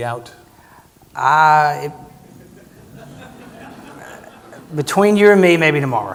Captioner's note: audience laughing